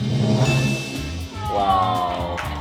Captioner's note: bell chimes